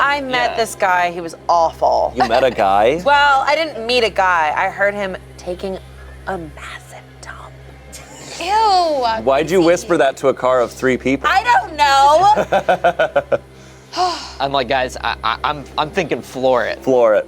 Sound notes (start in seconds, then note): 12.3 laughs